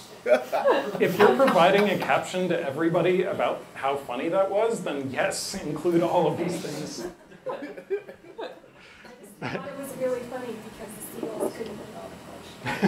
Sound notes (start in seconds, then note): 0.3 laughter